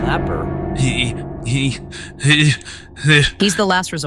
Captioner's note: panicked stuttering